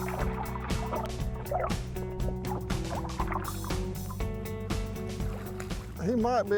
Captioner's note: water splashes; soft music